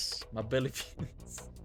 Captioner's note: laughs